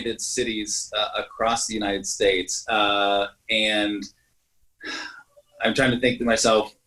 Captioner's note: sighs